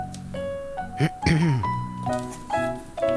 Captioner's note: clearing throat